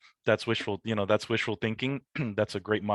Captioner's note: clears throat